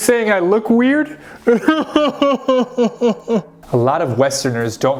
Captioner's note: cries